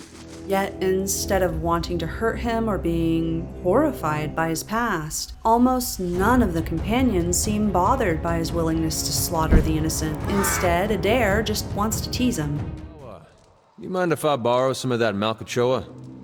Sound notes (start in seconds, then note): 9.4 poof; 10.2 screaming